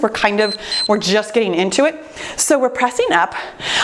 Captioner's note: timer beeps